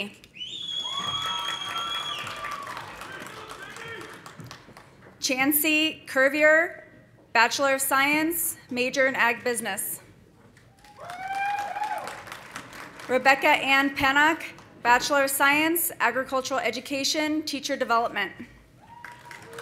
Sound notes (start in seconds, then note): 0.6 audience cheering; 0.7 audience applauding; 3.2 man shouting; 10.7 audience applauding; 10.8 audience cheering; 18.8 audience cheering; 18.9 audience applauding